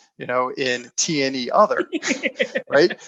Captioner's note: laughing